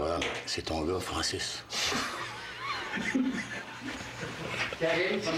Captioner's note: fou rire